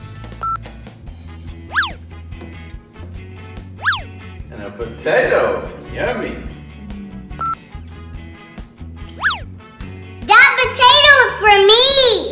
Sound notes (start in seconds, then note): 0.4 beeping; 1.5 lively music; 7.0 beeping